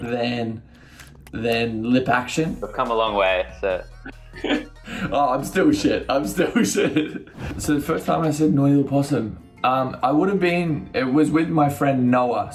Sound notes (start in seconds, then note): 4.0 chuckles